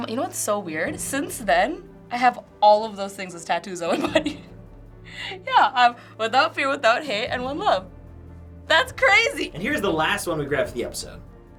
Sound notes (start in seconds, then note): 3.8 chuckles